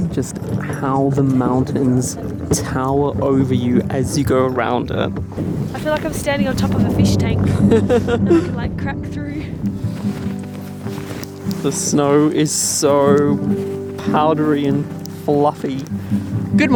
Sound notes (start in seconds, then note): 7.4 laughing